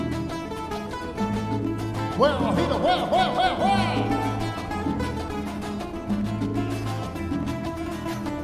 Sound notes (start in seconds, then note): 2.9 speaking foreign language